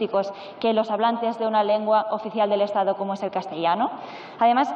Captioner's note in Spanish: none